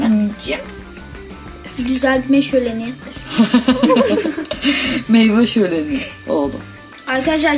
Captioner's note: laughs